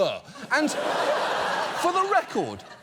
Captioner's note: studio audience laughs